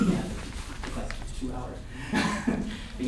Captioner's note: laughter